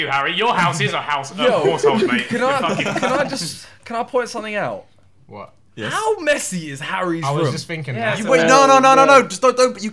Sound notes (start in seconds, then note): 1.4 laughing